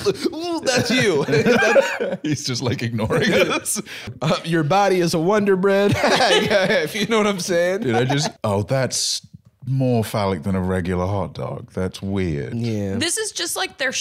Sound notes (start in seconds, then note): 5.9 laughs